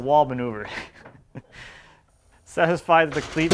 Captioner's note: laughs